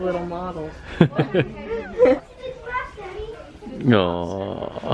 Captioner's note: laughter